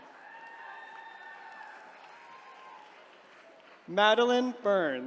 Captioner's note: attendees cheering